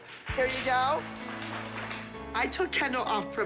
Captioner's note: applause